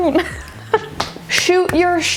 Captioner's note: laughing